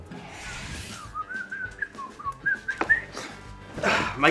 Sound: whistling

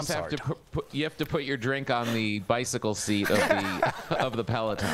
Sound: laughter

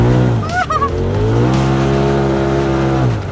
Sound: engine revving

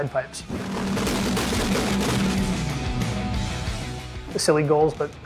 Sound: car engine roaring

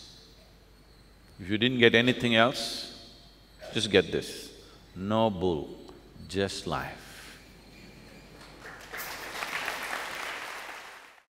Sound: laughs, applause

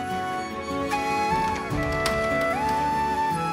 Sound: door opens

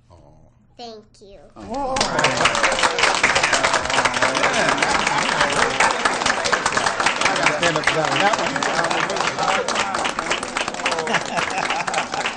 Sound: applause

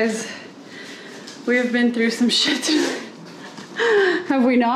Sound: laughs

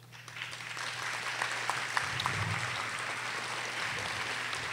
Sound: audience applauding

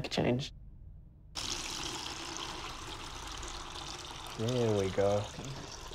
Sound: liquid pouring

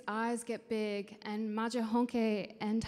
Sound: speaking in foreign language

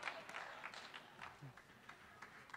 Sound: applause

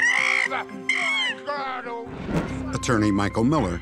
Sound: squeaking

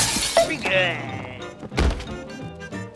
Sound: moaning

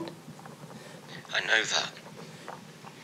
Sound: Jonathan on phone

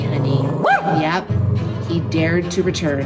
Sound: growl; woof

